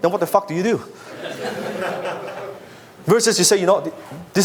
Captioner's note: audience laughs